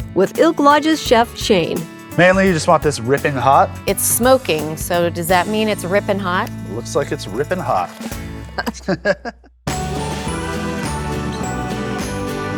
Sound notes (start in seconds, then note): 8.4 both laugh; 9.6 lively music